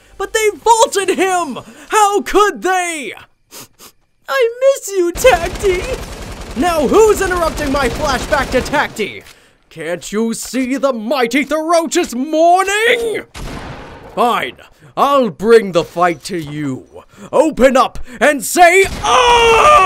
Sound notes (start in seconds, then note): 3.5 sniffing